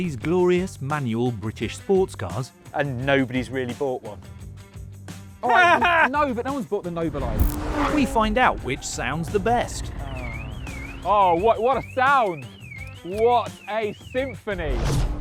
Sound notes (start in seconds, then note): 8.6 car alarm blares